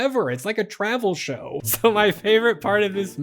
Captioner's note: laughing